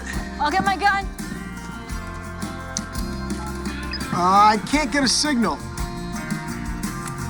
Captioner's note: dialing cell phone